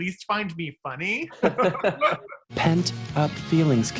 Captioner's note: laughing